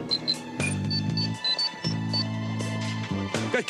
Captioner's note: beeping